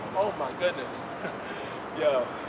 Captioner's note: chuckles